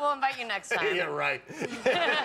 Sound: laughter

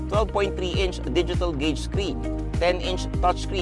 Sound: none

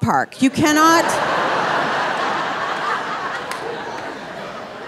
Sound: audience laughing

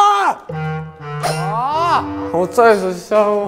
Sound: whimpering

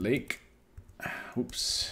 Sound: sighs

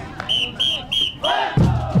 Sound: loud whistle; students chanting in unison

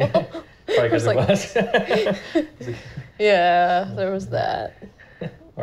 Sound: laughing

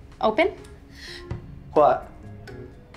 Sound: gasping

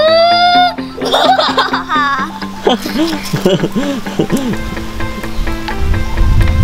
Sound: laughing

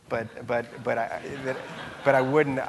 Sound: audience laughing

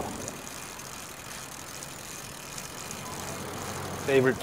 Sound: bicycle wheels reeling

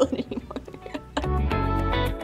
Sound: laughs; groovy, chill music

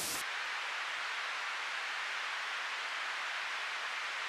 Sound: sound hissing; sound whooshing

